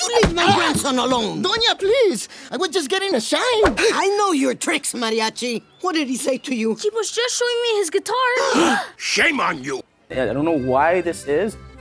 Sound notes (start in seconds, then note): 8.4 family gasps